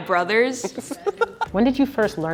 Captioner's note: interviewer laughing